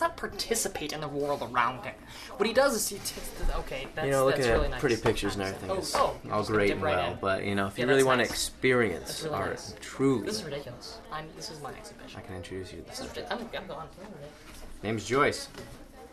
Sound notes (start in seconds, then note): none